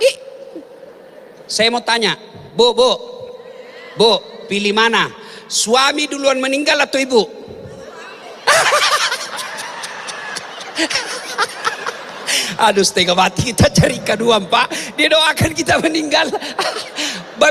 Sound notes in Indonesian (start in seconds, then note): 7.7 tertawa